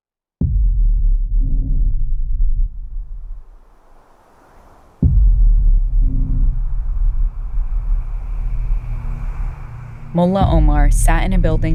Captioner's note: soundbite of nighttime ambience